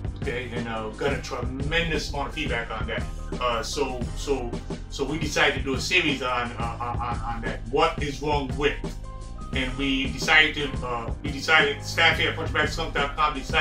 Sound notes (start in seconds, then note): 6.4 stammers